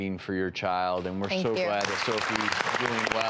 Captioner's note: applause